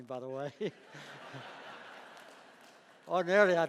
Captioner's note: laughing